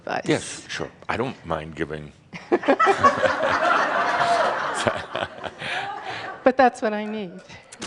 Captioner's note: some chuckles